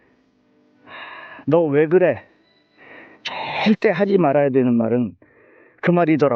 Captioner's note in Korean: 헉 소리; 한숨